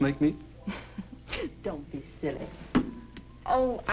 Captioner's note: laughs